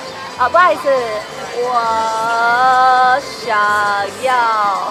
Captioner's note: speaking foreign language